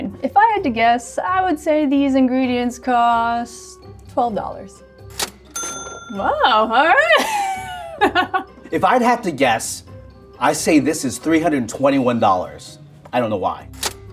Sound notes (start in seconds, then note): 5.0 cash register dings; 6.8 laughs